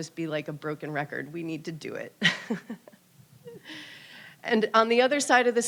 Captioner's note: laughs